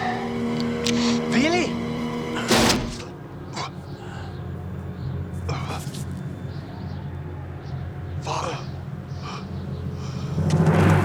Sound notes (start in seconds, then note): 1.3 speaking german